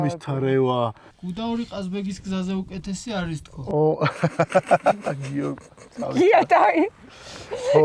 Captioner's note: burst out laughing